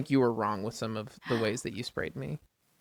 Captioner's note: sighs